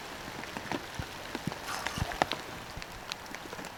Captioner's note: heavy rain drops